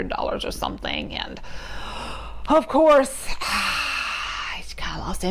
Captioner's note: sighs